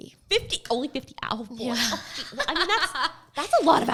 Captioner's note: laughing